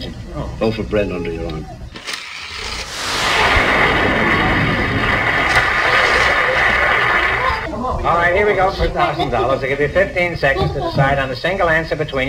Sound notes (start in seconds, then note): 2.9 audience applauds